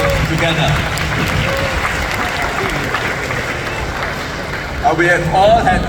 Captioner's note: applause